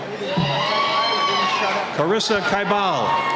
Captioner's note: cheering